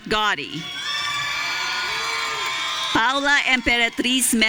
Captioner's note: audience cheering